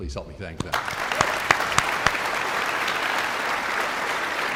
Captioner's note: guests applauding